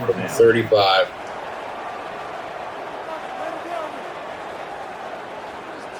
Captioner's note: crowd Noises